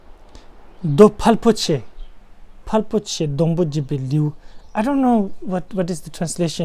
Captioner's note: tibetan